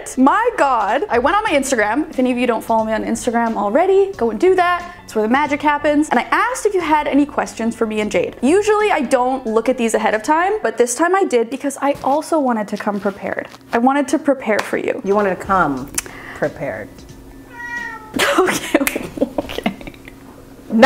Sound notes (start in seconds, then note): 17.4 cat meowing; 18.2 laughing